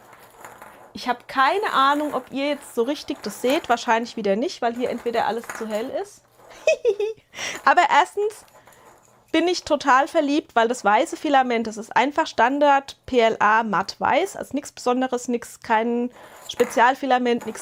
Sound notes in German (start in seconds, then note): 6.5 gelächter